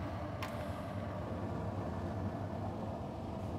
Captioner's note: machine noise